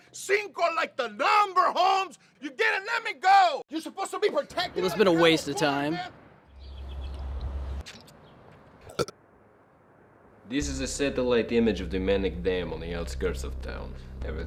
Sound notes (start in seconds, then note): 6.4 Cinco yelling; 7.2 Mack gulps and belches